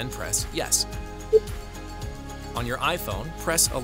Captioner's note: tone beeping